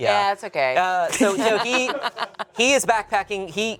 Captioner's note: laugh